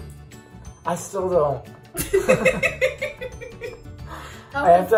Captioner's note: laughter